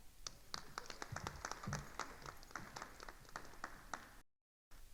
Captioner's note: attendees applauding